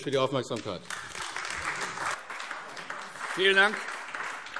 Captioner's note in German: Beifall AfD